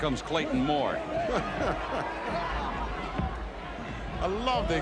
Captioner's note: gorilla chuckles